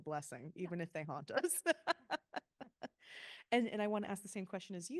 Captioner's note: laughing